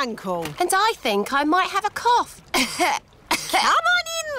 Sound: coughs

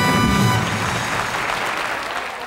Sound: audience applauds

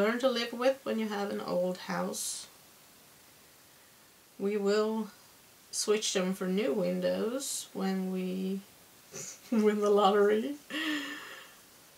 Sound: chuckle

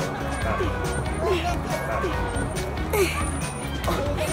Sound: grunts

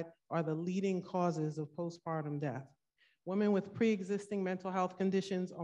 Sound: none

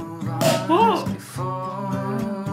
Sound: pop

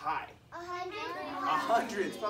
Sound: children shouting

